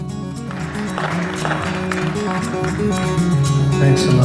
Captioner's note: applause